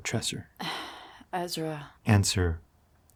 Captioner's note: sighs